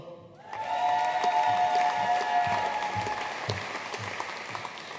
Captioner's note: audience cheering and applauding